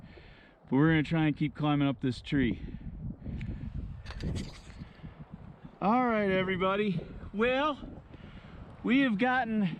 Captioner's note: wind blowing